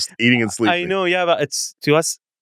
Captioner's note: laughs